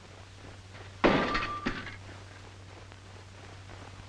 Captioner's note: metal thuds